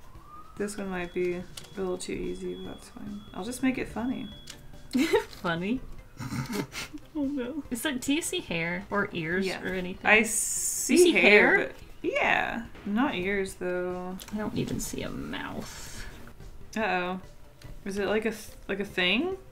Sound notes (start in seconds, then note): 6.1 giggles; 6.2 snorts